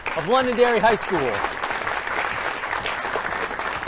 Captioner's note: applause